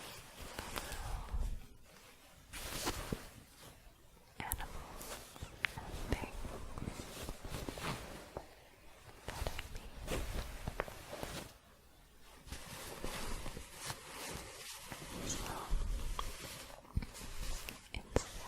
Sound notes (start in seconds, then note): 11.5 shuffling